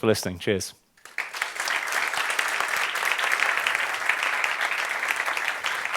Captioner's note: applause